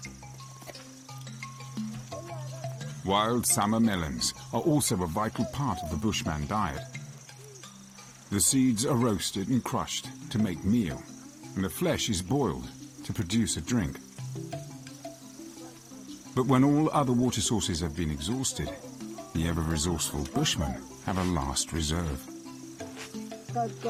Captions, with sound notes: The seeds are roasted and crushed to make meal and the flesh is boiled to produce a drink, but when all other water sources have been exhausted, the ever resourceful Bushman have a last reserve (speaking in foreign language) During the brief rainy season, they collect water and store it underground in the blown out shells